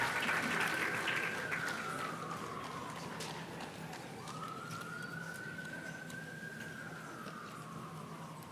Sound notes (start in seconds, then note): 1.3 siren wails